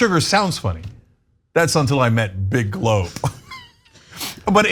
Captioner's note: laugh